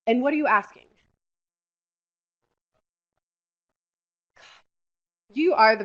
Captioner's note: silence